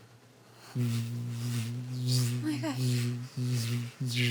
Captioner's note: buzzing